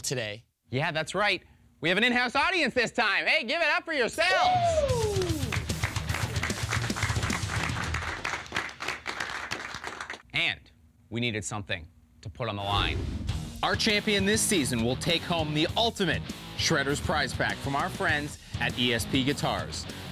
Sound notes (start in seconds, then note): 4.3 cheering